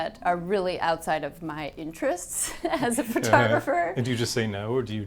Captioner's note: chuckles